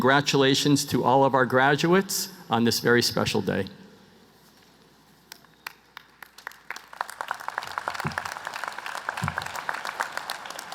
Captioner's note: applause